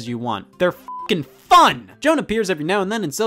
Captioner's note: beeps